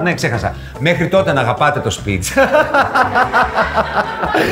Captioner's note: laughter from all